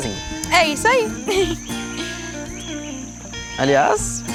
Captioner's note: birds